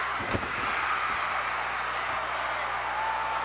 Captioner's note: cheers